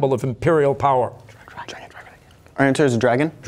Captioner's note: whispering